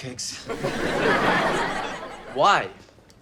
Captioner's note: audience laughter